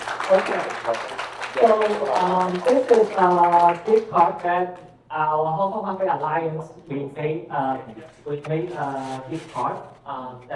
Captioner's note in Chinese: 掌聲